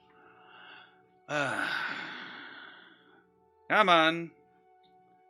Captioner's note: sighs